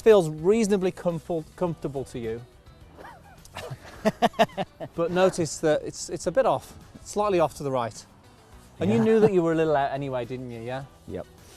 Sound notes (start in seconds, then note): 3.0 laughter